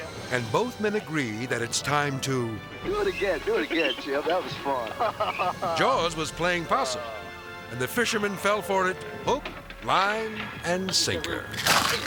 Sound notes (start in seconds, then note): 4.7 laughs; 11.5 shark munches